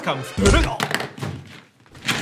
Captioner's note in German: Klopfen